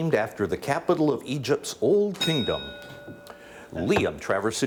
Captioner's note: bell dings